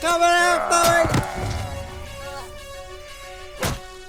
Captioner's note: Farley growling